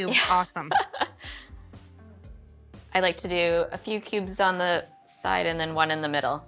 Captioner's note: laughs